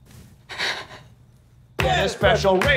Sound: sighs

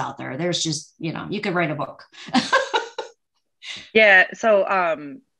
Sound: laughs

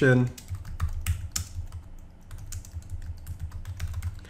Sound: typing

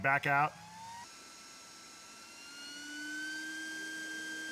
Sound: machine noise

